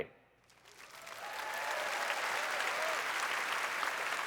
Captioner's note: applause